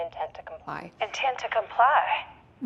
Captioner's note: on phone